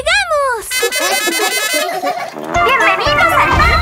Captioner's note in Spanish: Risas